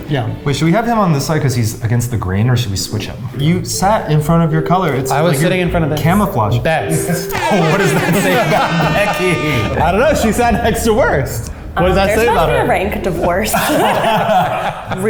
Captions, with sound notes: - Wait, should we have him on this side? 'Cause he's against the green? Or should we switch him? You sat in front of your color it's gonna camouflage-- - I was sitting in front of this, "Best." (air horns sounding) - What does that say about Becky? - I don't know, she sat next to "Worst." What does that say about her? - There's about to be a Rank divorce. (all laughing)